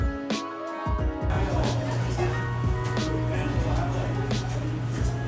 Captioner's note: laughs